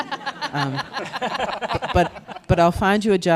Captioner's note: panelists and audience laughing